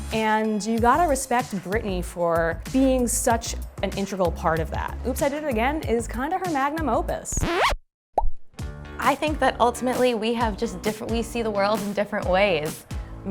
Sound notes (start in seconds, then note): 7.3 record scratch